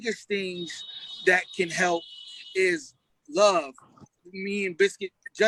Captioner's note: car horn honking